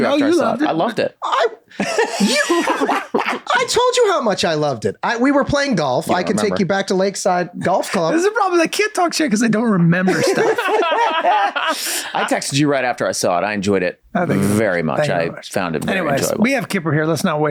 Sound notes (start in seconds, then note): 1.8 Glenn laughing; 9.8 all laughing